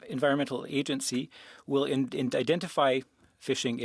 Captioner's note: speaking French